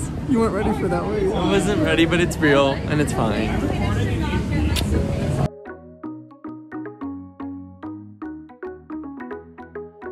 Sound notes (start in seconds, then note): 4.7 kissing; 5.3 soft upbeat electronic music